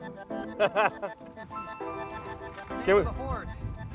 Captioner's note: laughing